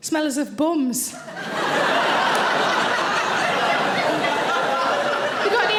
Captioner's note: audience laughing